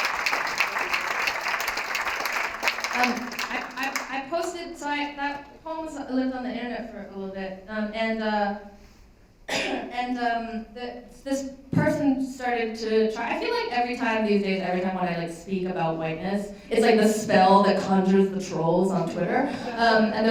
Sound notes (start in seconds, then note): 9.5 coughs